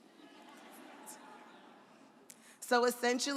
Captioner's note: audience laughs